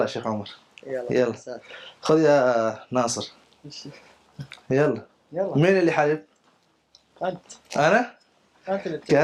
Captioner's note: Arabic